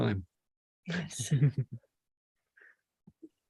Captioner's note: chuckles